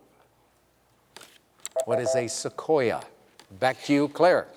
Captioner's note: beep